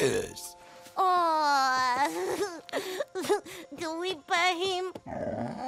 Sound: giggles

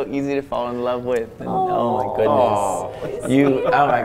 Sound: overlapping chatter

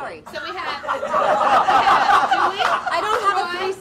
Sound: audience laughs

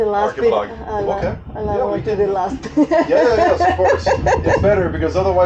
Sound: laughing

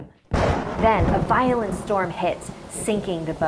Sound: thunder crashes

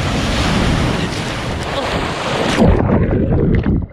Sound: sound of the waves; sound of underwater

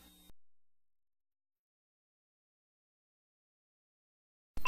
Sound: silence

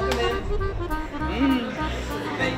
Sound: sniffs

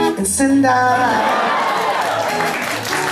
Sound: cheering

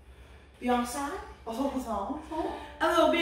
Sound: jokingly

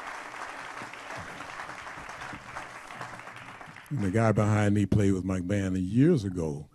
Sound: applause

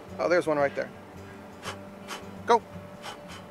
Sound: blows

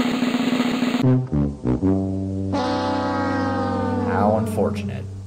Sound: drumroll; "The Price is Right" losing horn

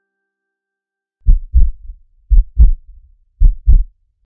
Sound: heart beating

